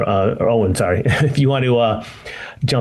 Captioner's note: laughs